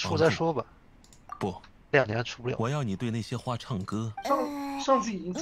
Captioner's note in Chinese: 大哭